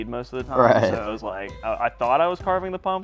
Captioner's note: laughs